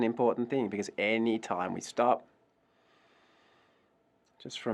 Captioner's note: takes a breath